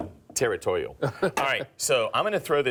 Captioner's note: laughs